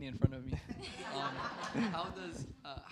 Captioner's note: laughter